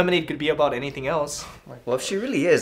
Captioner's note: under breath